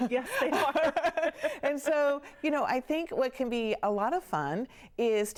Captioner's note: laughing